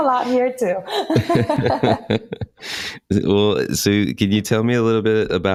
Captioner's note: laughs